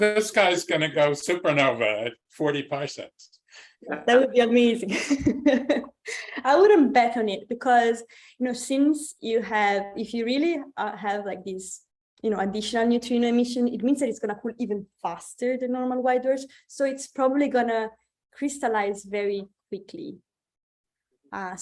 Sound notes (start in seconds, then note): 4.9 chuckles